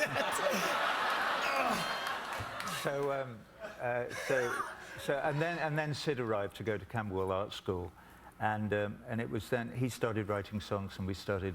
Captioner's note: laughter